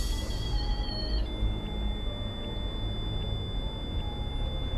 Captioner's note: meter screeches